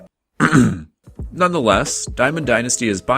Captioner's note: ahem